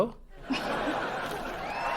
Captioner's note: audience: laugh track; audience: applause